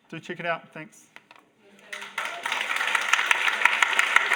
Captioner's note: audience applause